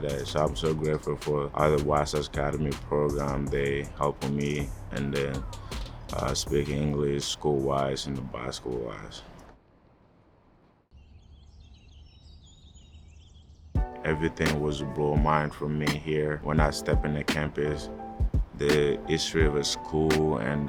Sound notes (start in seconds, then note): 8.3 hip hop music fades out; 11.4 birds chirping; 13.8 R&B music